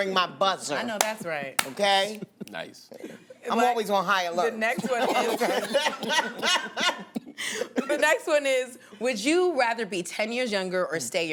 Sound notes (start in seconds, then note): 2.8 laughs; 4.7 laughter